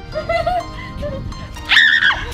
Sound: laughter; screaming

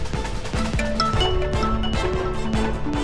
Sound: phone ringing

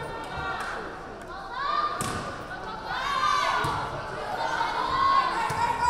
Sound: team members yelling

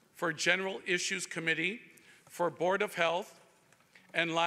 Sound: none

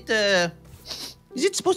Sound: sniffs

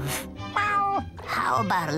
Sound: meows

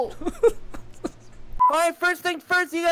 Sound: laughter

